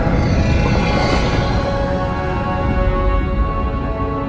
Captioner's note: sub whirring